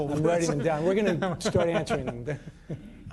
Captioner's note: laughter